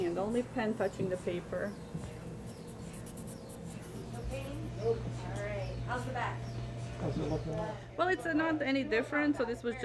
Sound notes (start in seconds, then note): 1.9 pen scribbling